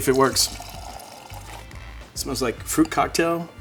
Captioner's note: wine pouring